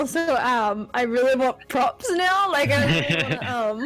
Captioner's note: laughs